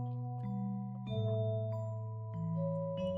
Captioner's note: none